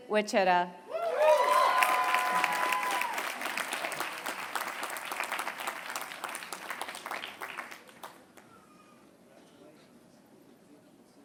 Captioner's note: applause